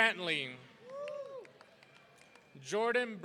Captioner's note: audience cheering